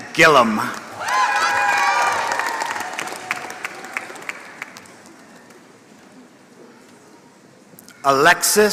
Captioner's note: applause